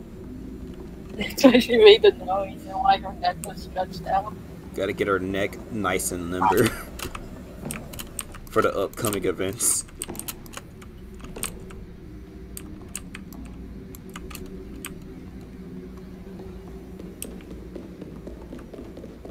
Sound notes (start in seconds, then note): 6.4 laughs